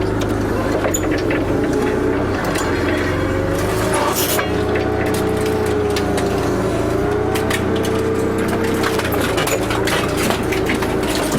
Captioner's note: sound of a forklift lifting the bale